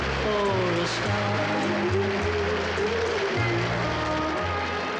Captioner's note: audience applauding